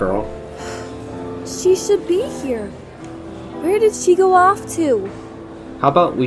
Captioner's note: sigh